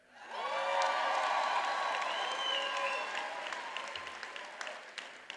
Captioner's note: graduates applauding and cheering